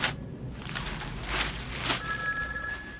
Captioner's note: phone ringing